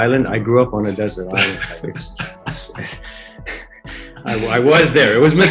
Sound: laughing

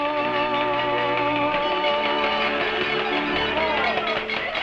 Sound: applause

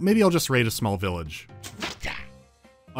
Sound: thunk!

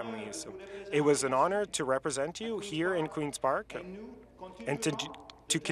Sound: speaking french

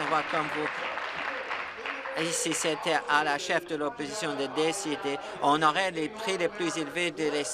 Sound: applause

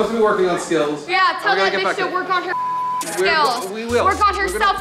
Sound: beep

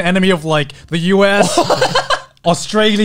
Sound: laughs

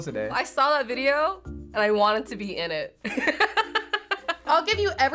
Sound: laughs

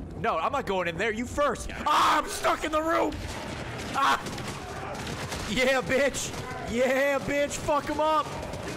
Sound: screams

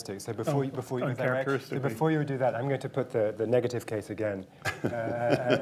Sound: laughter

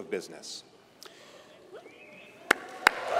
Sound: applause

